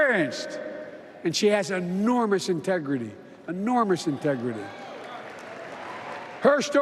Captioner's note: applause